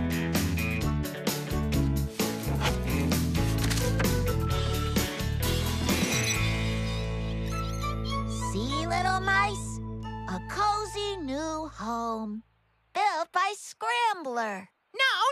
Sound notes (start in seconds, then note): 6.3 mice Squeak